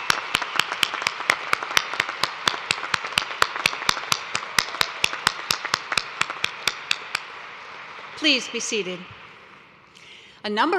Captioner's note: cheers and applause